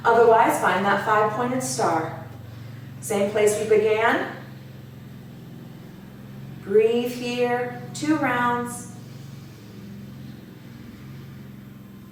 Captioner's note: audible breath